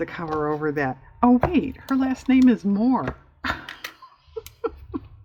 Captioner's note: laughs